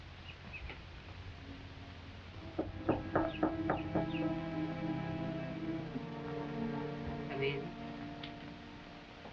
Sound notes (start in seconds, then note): 2.6 knuckles tapping; 5.3 foreboding music